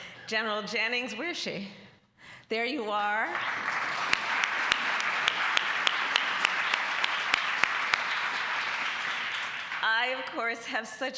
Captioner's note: applause